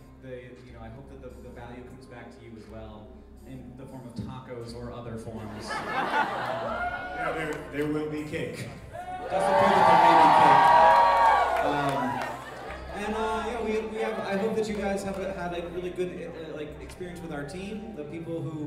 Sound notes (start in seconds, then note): 5.4 laughter; 8.9 cheeering